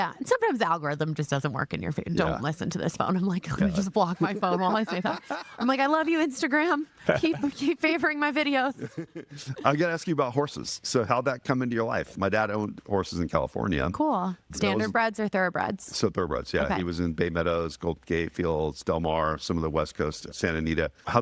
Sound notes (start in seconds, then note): 3.6 laughing